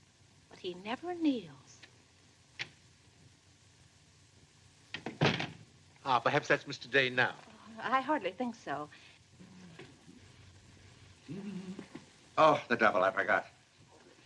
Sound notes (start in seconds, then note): 5.0 door closes; 9.3 humming